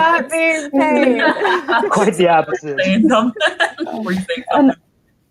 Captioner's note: laughing